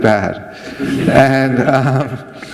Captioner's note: laughter